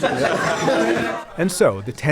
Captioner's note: laughter